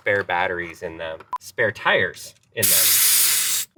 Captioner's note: air whooshing